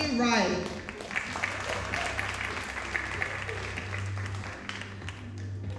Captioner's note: audience applauding